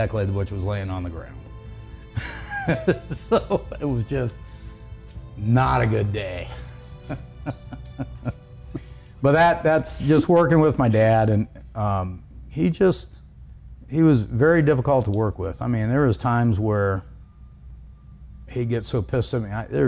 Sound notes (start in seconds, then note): 2.8 laughs